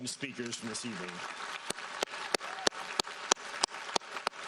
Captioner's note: applauding